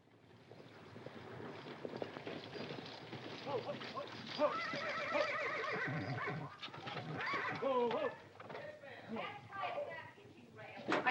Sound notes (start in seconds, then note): 0.2 horses & carriage arriving outside; 3.4 commotion & horses neighing; 9.0 Katherine yelling in the hallway